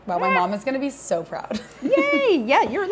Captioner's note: chuckles